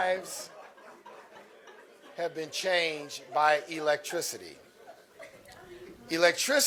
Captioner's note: laughter